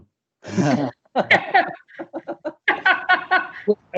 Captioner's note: audience Laughs